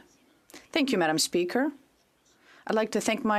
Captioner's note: speaking French